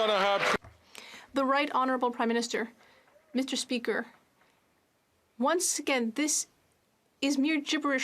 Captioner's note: some Applause